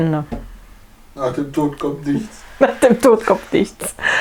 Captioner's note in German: Aus dem Off